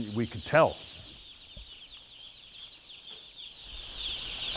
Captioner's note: chicks chirping